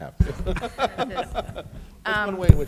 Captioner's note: chuckling